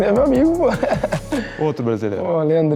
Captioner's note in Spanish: Risas